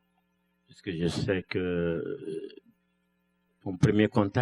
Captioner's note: speaking french